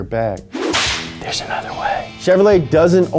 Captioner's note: whispers